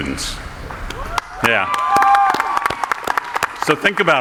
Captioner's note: audience applauding